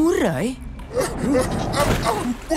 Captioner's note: RocketFish gasping